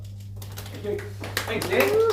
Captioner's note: clapping